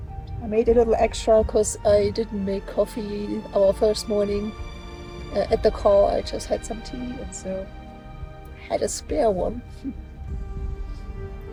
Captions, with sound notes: I made a little extra cuz I didn't make coffee our first morning ... at the car. I just had some tea, and so ... I had a spare one. [laughs]